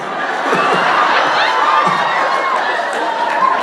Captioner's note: audience laughs and cheers